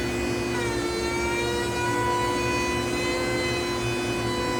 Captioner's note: machinery continues to whir